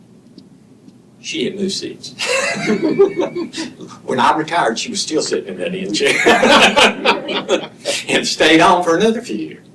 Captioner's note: laughter